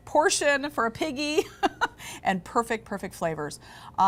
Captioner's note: laughing